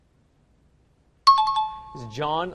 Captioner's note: dinging